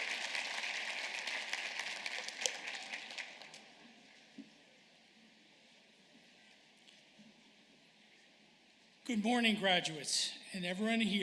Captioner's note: applause